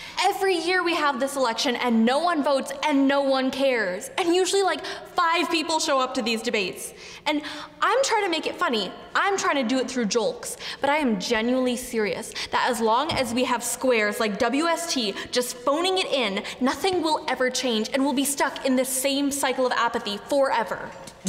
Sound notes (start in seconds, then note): none